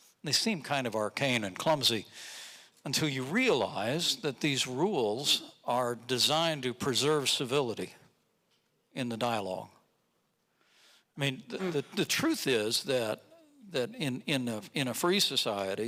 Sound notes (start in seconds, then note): none